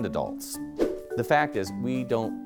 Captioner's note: screen whooshing